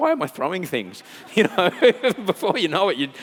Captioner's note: laughing